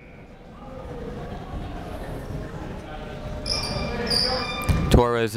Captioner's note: buzzer ringing; people talking in the crowd